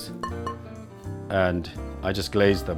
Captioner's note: plate pings